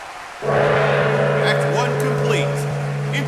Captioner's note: gong